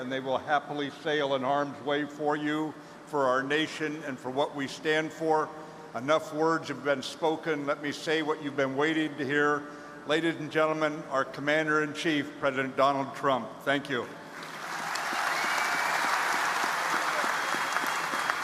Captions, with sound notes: and they will happily sail in harm's way for you, for our nation, and for what we stand for. Enough words have been spoken. Let me say what you've been waiting to hear. Ladies and gentlemen, our Commander in Chief, President Donald Trump, thank you. (audience applauding)